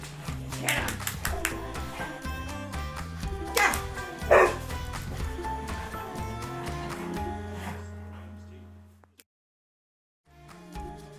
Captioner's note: clapping